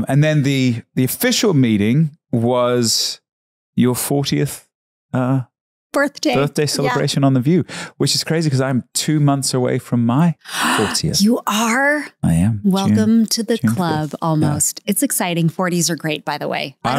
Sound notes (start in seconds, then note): 10.4 gasps